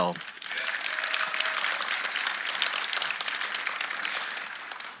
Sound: audience applauding

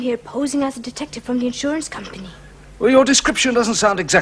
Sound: none

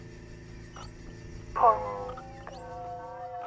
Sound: digital bell; loudspeaker distortion

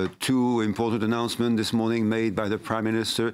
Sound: speaking French

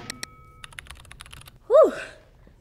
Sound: electric guitar music; keyboard clicking

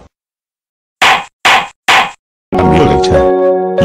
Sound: judge hit 3 times

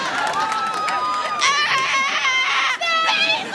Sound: screaming

